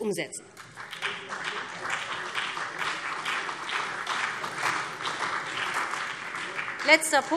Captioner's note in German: Beifall BÜNDNIS 90/DIE GRÜNEN und vereinzelt CDU